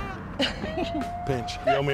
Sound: laughing

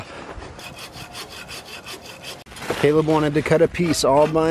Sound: scraping

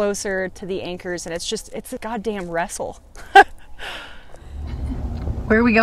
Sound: laughs

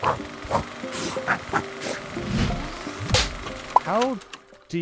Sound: film reel turning

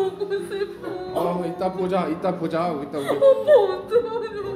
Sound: she keeps crying lolololol

